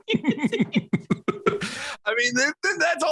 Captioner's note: both laughs